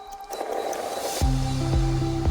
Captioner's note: static hissing; bright music